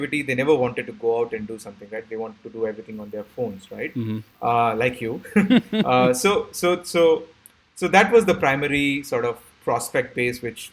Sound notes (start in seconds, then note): 5.1 chuckling